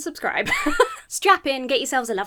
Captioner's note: laughs